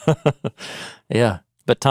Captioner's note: chuckling